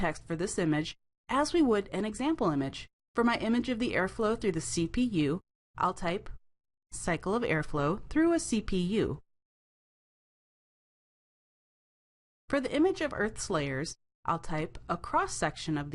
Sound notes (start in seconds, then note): 10.1 brief Silence